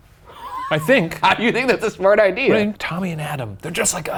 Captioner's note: laughs